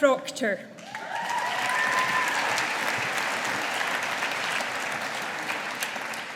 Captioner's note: audience applauding